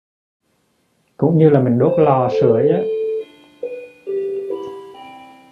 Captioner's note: clock chiming